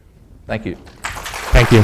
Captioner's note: audience applauds